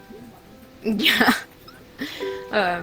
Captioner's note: laugh